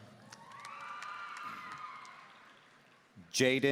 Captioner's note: audience cheering